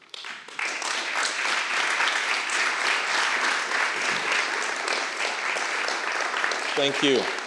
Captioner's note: applause